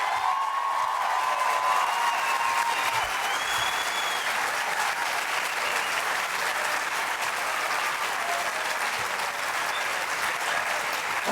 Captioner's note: loud applause, some chanting "Bernie"